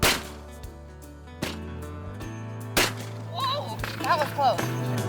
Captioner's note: shots firing